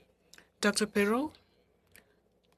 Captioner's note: speaking FRENCH